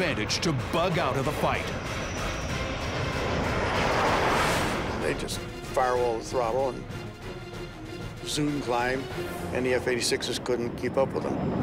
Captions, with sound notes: to bug out of the fight. [planes roaring] They just firewalled the throttle and... zoom-climbed, and the F-86s couldn't keep up with them.